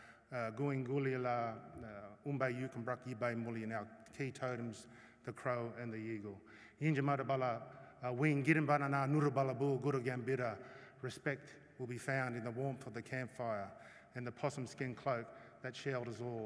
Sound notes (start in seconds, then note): 0.1 non-english speech